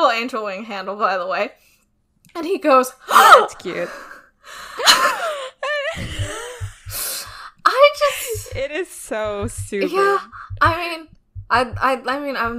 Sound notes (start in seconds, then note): 5.9 exaggerated gasp; 8.2 laughs